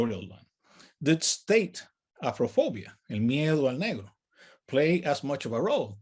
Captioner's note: speaks in native language